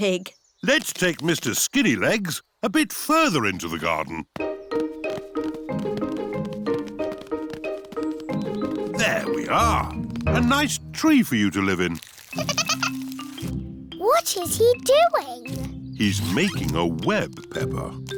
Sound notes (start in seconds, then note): 12.3 giggling